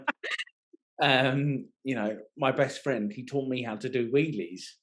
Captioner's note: laughing